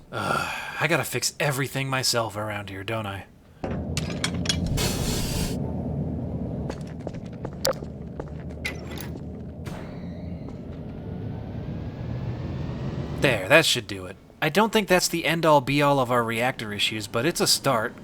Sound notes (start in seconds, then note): 4.7 valve turns and hisses; 8.5 mechanism unlocking; 8.5 motor whirs up